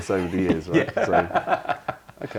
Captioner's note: laughter